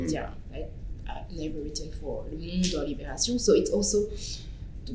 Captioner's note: french